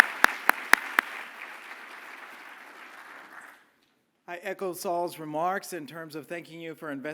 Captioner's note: applause